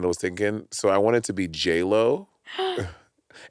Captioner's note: gasping